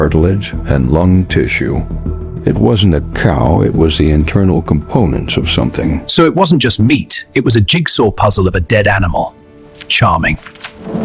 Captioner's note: sarcastic Commentary